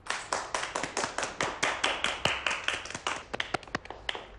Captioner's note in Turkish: Alkış sesi